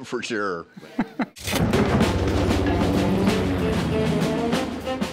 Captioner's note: laughs; military music; airplane engines roar